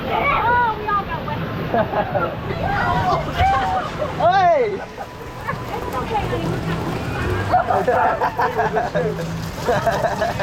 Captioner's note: lot of laughter